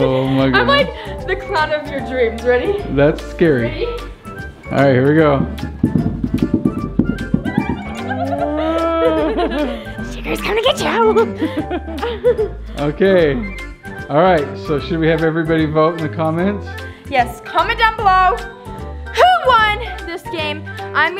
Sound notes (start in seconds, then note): 5.2 loud thumping; 7.6 giggling; 10.9 laughing